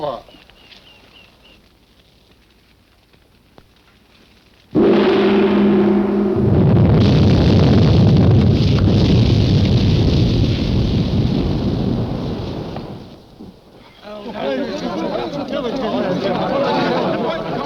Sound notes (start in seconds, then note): 4.7 gong crashes; 7.0 earth rumbling; 13.8 people clamoring